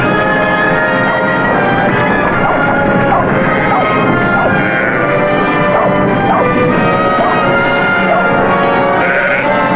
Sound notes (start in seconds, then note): 4.3 sheep bleating